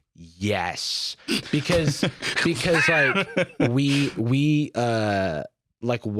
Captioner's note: laughs